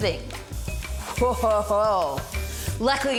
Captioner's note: can hisses